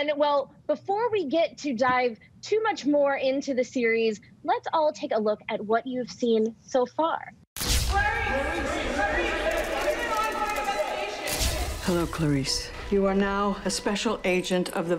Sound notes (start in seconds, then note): 8.2 crowd murmuring; 9.3 cameras shuttering